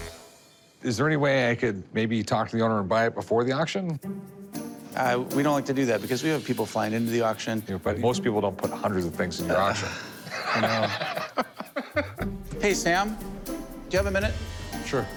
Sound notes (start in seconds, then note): 9.6 laughing